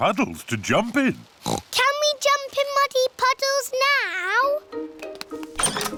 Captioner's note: oinks